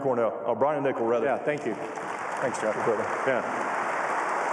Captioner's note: cheers and applause